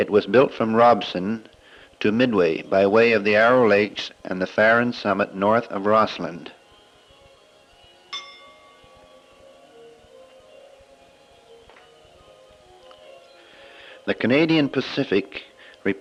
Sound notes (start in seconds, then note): 8.1 bell sound